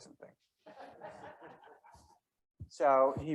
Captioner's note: members laughing